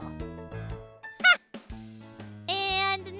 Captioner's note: Marvie laughs